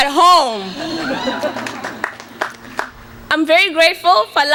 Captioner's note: light laughter and cheers